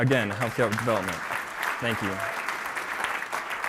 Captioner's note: applause